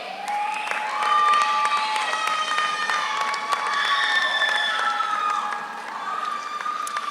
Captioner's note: audience cheers; audience applauds